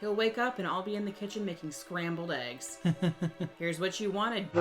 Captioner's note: laughs